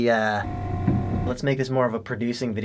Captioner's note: construction noises